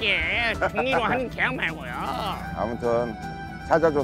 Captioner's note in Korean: ㅎㅎㅎㅎㅎㅎㅎ